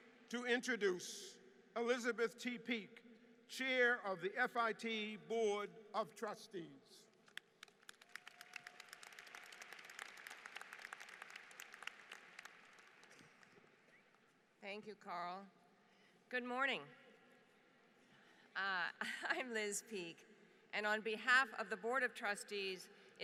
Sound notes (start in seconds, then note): 7.2 applause; 17.0 laughter